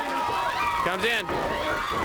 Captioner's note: crowd chatter